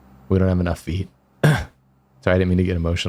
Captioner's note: cough